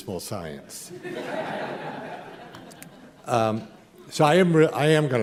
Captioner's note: laughter